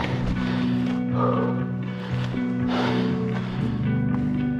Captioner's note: heavy breathing